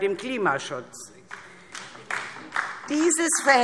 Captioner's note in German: Beifall DIE LINKE